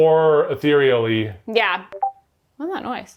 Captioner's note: Discord notification beeping